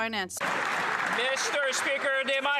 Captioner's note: cheers & Applause